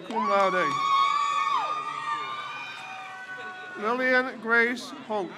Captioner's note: crowd cheers